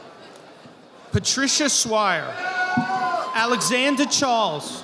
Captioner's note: audience applauding